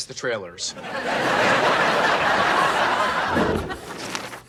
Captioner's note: audience laughs